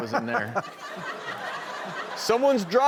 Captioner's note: crowd laughs